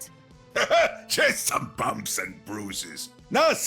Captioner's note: laughs